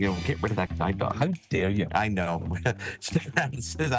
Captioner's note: laughing